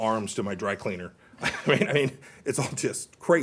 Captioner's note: laughter